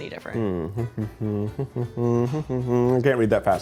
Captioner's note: mumbling